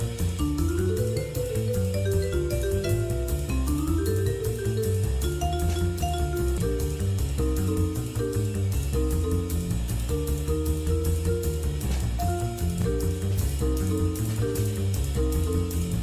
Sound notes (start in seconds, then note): none